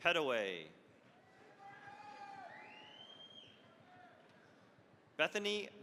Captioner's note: cheering, applause